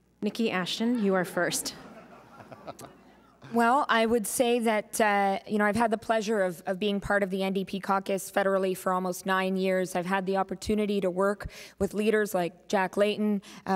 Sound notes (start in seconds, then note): 1.6 chuckling